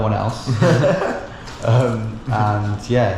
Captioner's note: both laugh